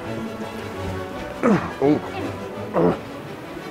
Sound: grunting

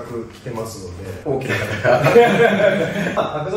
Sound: laughs

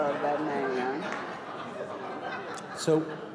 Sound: laughter

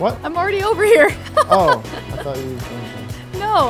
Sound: laughs

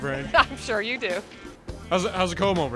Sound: chuckles

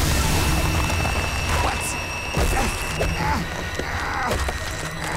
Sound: groaning

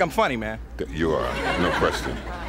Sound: audience laughing

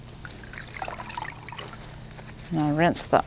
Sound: water splashing

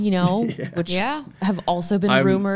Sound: laughs

